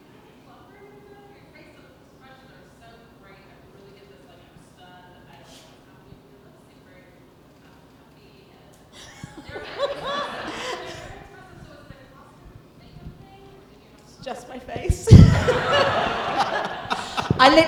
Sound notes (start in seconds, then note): 9.0 laughing; 15.0 audience and cast laughing